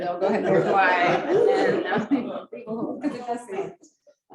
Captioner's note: laughing